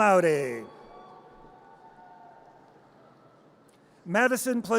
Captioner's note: audience cheers